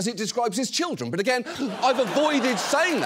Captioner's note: audience laughs